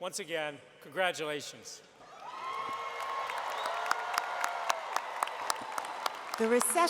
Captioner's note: crowd Cheering